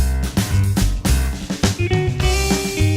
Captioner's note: whispers